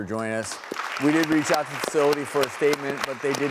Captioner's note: applause